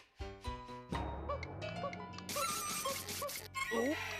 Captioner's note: cuckooing